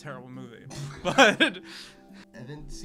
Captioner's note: laughs